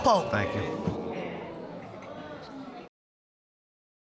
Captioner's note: audience gasping and murmuring